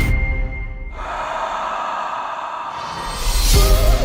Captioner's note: exhales heavily